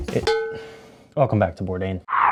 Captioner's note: bell gongs